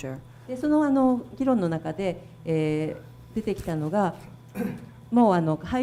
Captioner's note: speaking foreign language